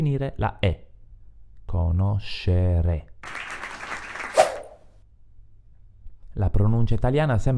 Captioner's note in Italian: Applauso